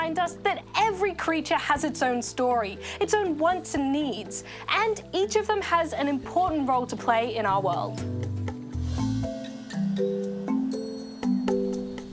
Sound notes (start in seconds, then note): none